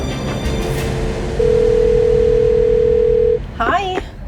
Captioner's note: phone ringing